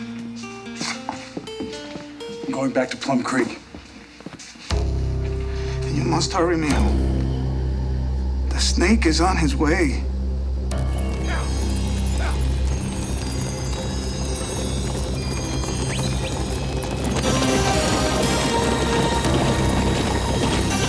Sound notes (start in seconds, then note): 4.7 ominous music; 11.2 distant riders grunt; 17.2 ominous music continues